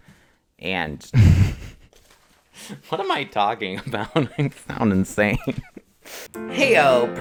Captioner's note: laughs